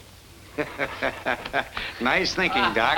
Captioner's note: laughing